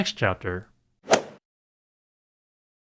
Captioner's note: swoosh